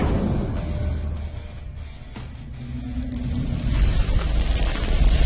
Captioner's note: explosions